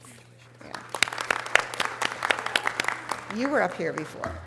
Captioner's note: audience applause